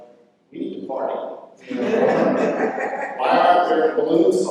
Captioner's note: laughter